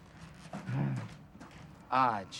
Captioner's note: sighs